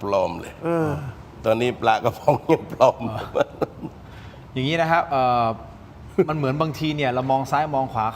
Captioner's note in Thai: เสียงหัวเราะ